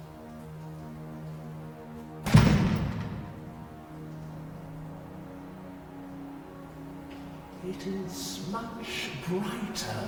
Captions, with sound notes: (Loud thud) It is much brighter now.